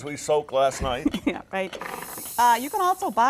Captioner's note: chuckles